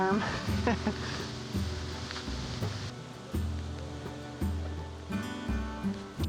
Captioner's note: laughing